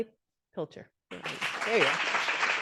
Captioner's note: audience applauding